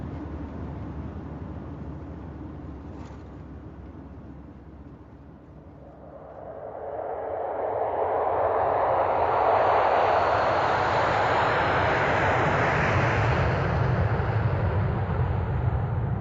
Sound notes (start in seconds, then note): 5.6 engines roaring